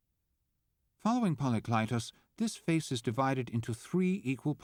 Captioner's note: voiceover